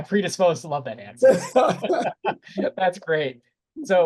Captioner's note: laughter